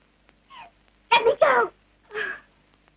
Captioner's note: sob